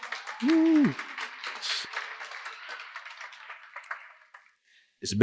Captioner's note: applause